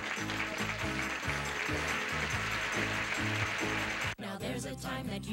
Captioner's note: audience applauding